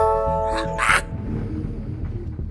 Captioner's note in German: Übertriebenes Lachen